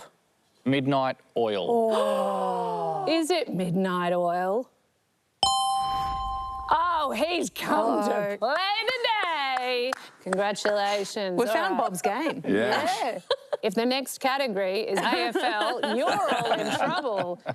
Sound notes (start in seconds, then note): 1.8 others gasp